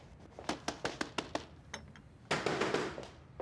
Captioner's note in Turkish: Kapı Çalıyor